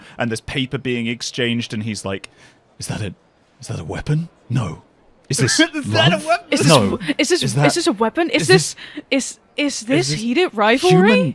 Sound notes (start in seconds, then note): 5.4 laughing